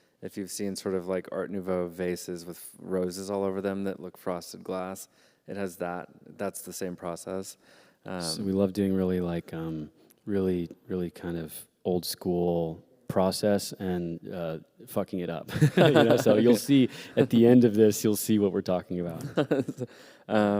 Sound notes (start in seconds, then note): 15.5 laughter